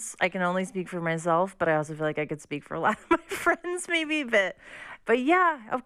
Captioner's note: laughter